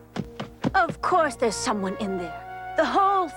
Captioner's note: Samsonís heavy footsteps